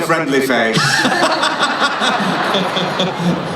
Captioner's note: laughing